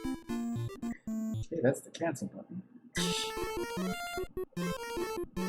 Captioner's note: laughs softly